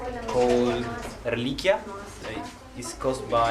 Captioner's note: speaking in a foreign language